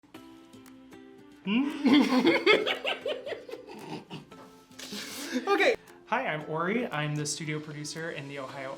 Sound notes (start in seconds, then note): 1.5 laughing